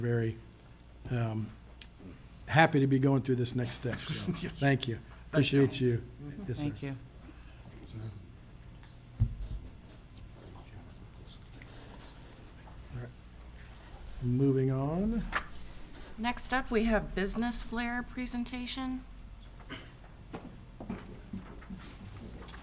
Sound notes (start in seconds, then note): 8.4 whispers and chatters